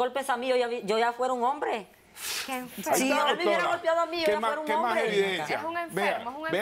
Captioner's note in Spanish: Hablan al unísono